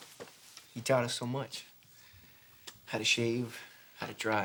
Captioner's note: solemnly